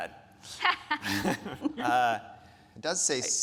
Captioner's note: speakers laughing